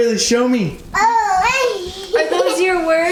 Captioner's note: vocalizing and giggling